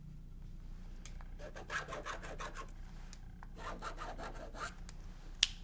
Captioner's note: pen scratching